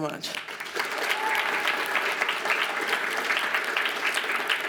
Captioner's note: audience applauds